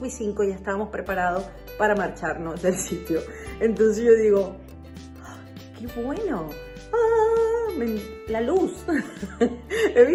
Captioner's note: ahhh